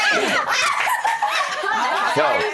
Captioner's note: laughing